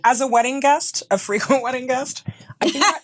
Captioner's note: laughing